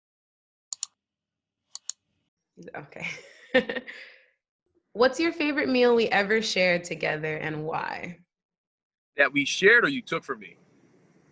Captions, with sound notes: (button clicking) - Okay (laughing) What's your favorite meal we ever shared together and why? - That we shared or you took from me?